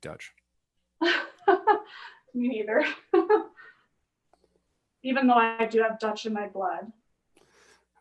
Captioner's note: laughs